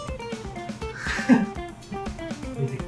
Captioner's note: he just laughs